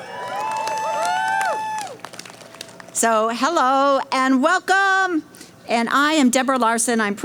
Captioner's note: cheering